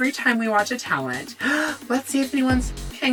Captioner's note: gasp